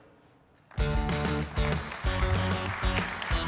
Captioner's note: applause